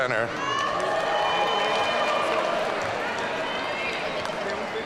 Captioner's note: audience cheering